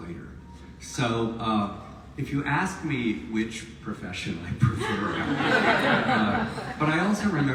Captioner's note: audience laughs